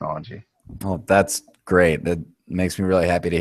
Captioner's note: voiceover